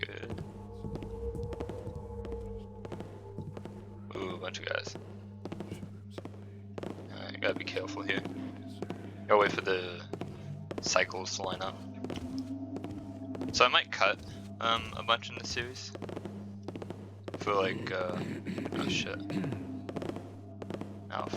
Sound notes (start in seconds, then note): 1.3 footsteps grow louder; 5.7 guard grumbles; 16.6 Guard coughs, footsteps grow louder